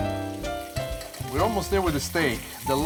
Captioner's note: spoon tapping